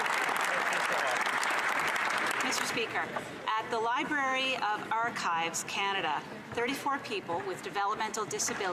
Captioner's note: some Applause